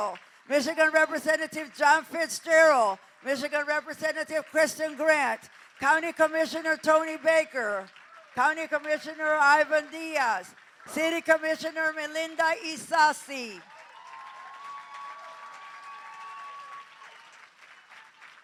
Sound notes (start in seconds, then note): 13.5 applause